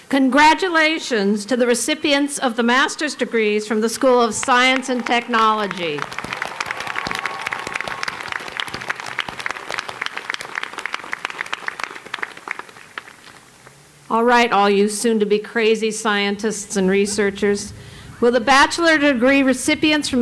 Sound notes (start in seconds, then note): 6.4 applause